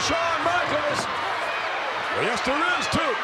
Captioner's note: crowd shout